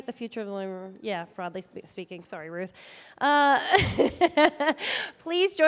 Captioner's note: chuckling